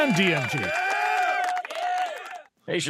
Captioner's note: cheering